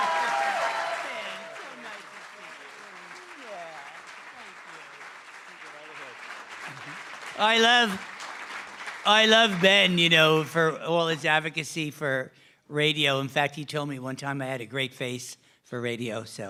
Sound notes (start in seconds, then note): 3.1 cheering & Applause